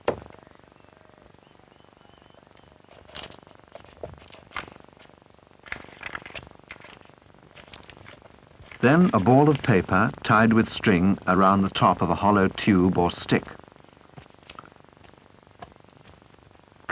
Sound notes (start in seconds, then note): 3.0 paste being kneaded